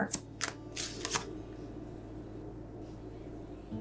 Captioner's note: cards shuffling